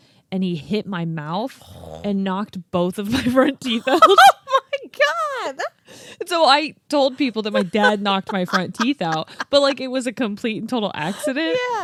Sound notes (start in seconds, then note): 3.7 laughing